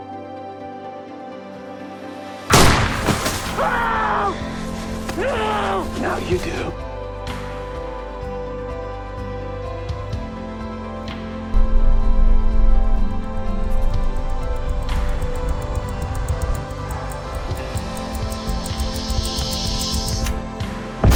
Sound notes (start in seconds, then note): 2.5 gunshot; 3.3 muffled screams; 13.7 clock ticking faster then slower; 21.0 explosion